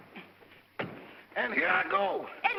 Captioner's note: feet thump